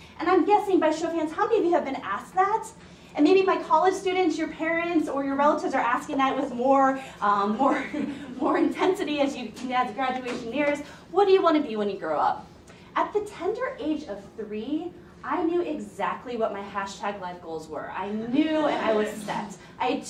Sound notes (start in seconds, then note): 7.8 laughing